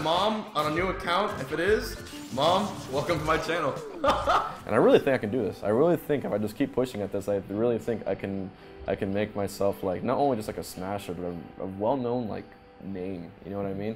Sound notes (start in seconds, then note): 3.7 laughs